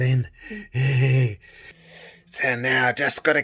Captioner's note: laughs